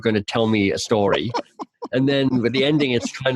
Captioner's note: laughing